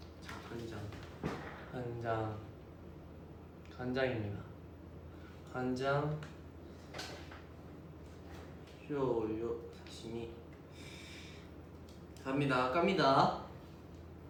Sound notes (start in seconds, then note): 8.8 speaking Japanese